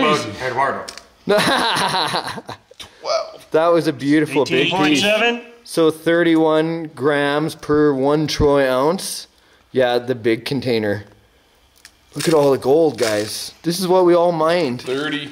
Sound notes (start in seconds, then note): 1.3 laughing